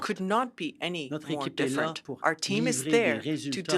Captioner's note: speaking French